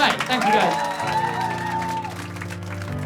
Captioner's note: cheering and applause